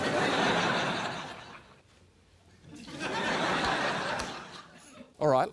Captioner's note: laughter